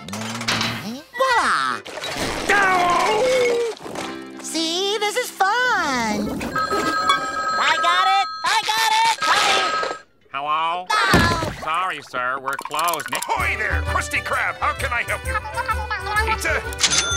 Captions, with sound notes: Viola. [groaning] See? This is fun. [phone ringing] I got it! I got it! Coming! - Hello. - Oh. Sorry, sir, we're closed. Ahoy there, Krusty Krab, how can I help you? [indistinct chattering] Pizza?